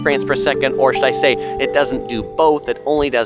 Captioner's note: chimes